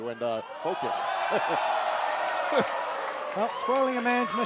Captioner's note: laughter